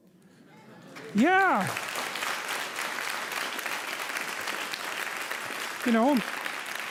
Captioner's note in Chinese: 掌声